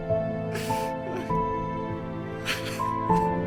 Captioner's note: crying